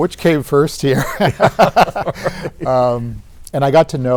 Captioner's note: both laughing